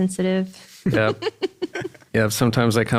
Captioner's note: laugh